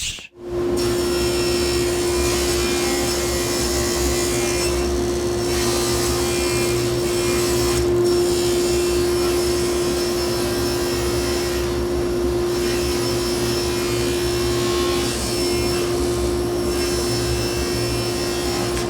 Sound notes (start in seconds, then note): 0.0 saw whirring; 15.5 saw whirring